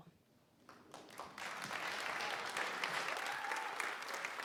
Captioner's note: applause